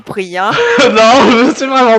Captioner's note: laugh